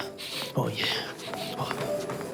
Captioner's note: sniffs